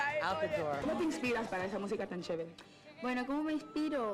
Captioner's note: speaking Spanish